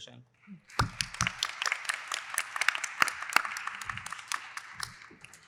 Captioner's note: applause